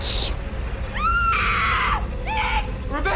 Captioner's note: Rebecca screams